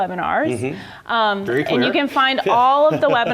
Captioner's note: laugh